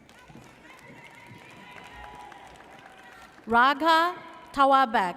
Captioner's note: audience cheers